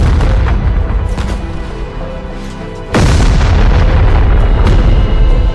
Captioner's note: explosions as music continues to play